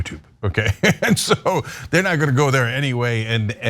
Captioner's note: laugh